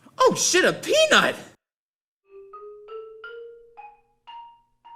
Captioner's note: none